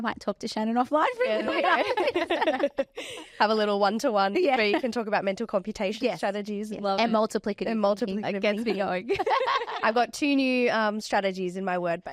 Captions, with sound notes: I might talk to Shannon offline really quick. (all laughs) Have a little 1-to-1 where you can talk about mental computation strategies. And multiplicative. And multiplicative It gets me going. I've got 2 new strategies in my word base.